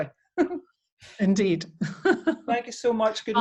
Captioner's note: chuckles